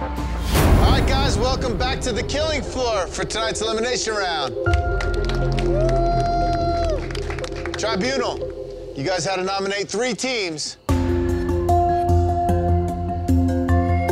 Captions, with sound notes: - All right, guys, welcome back to the Killing Floor for tonight's elimination round. (crowd cheers) Tribunal. You guys had to nominate three teams. (suspenseful music)